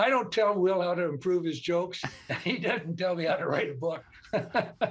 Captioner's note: laughter